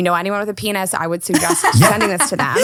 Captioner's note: laughing